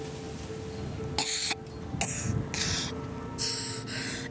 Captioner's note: coughing; sad music